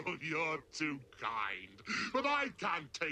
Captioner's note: evil laugh